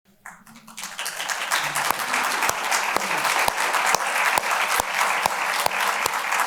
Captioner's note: applause